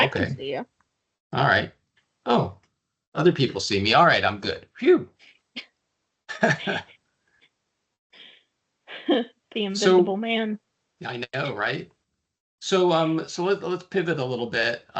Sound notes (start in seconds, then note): 6.3 laughing; 9.8 chuckling